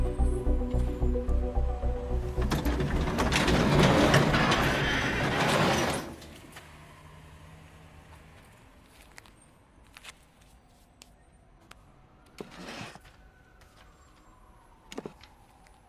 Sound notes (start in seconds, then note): 2.2 door rumbling; 9.5 muffled sirens blaring